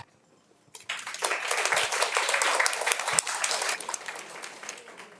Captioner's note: everyone applauding